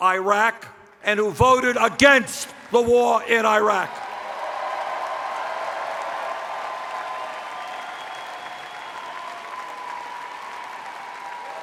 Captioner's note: cheers